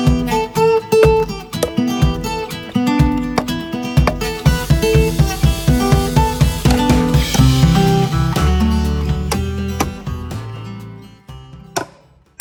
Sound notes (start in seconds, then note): 1.4 hammer thudding; 5.4 upbeat music; 9.3 hammer thudding